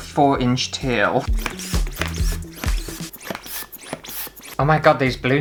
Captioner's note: balloon Pumping Noises